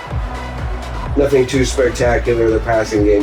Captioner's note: crowd Noises